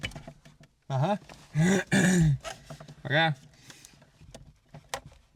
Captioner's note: coughs